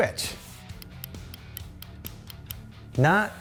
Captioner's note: trigger clicking